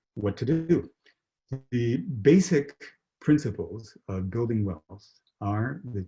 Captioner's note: murmuring